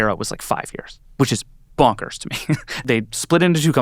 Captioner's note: chuckles